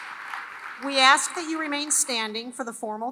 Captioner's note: applause